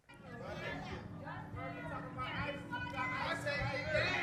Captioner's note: shouting